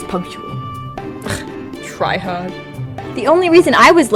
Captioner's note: scoffs